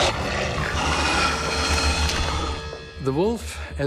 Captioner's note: wolf growls; suspenseful music